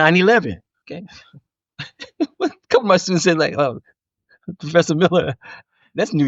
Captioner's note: laughing